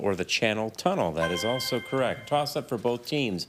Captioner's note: chime resonating